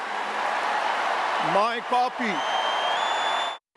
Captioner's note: cheers, applause